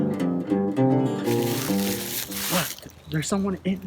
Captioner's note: leaves rustling